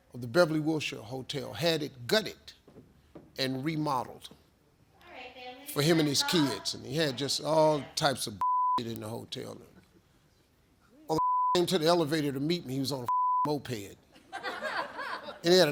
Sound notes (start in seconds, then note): 8.4 beep; 11.1 beep; 13.0 beep; 14.2 audience laughs